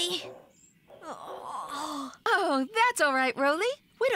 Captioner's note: yawns